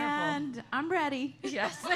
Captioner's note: laughter